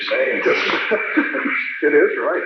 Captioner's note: laughing